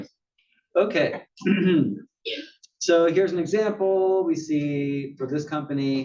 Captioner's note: cough